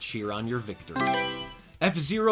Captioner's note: Mario Selection Sound